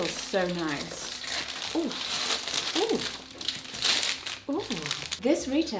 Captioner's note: gasps; packaging rustles